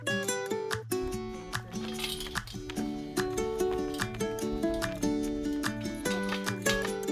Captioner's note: chain link fence sounds